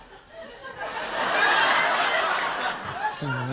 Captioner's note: laughter